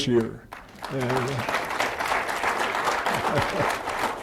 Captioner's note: applause